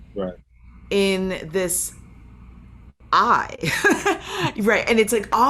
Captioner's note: laughing